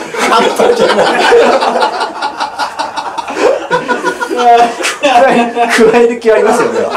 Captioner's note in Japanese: 笑い